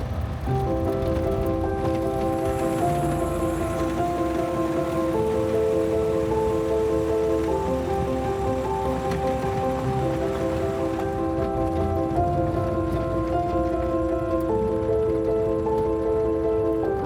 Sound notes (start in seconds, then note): 3.0 engine rumbling; 9.8 dramatic music